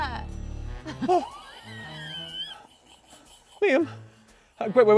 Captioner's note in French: rire